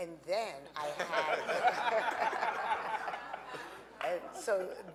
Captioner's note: audience laughing